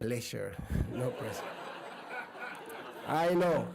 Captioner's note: laughs